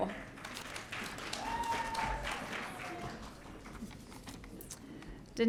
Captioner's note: audience cheering